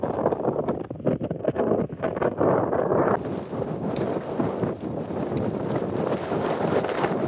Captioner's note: wind